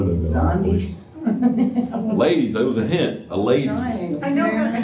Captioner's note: laughter